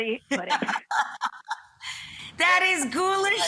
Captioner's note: laughing